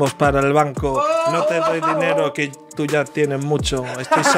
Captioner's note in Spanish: gritan